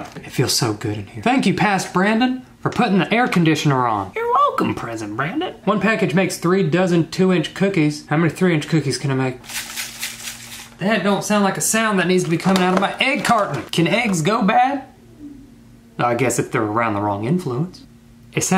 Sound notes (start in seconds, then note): 9.4 eggs rattling